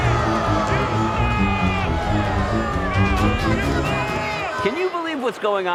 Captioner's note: crowd booing